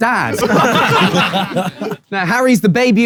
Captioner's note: people in room laughing